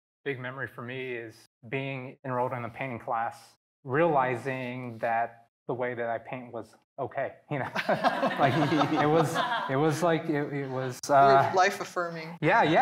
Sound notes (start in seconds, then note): 7.6 all laughing